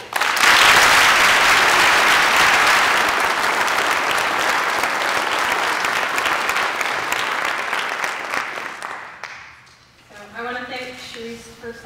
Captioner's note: applause